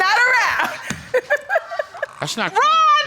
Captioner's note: laughs